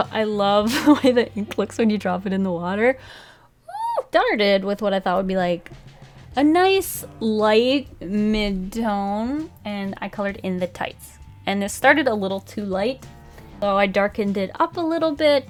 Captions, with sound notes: I love that ink looks when you drop it in the water. [Squeals] I started did with what I thought would be like a nice light Mid-tone and I colored in the tights and it started a little too light. So, I darkened it up a little bit